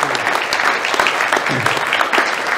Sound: hand clapping

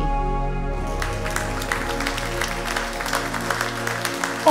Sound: crowd claps

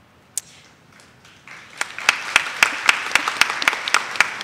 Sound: audience claps

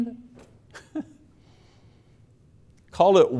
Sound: chuckling

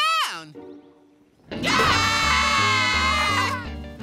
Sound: screaming

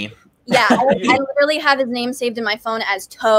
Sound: laughs

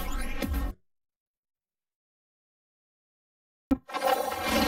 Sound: silence

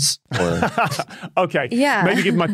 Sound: laughs

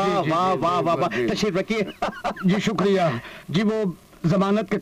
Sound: laughs

